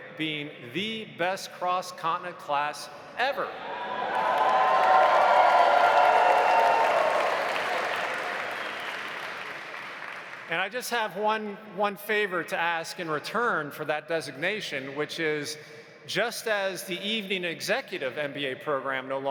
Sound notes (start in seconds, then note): 3.6 audience cheering; 3.8 audience applauding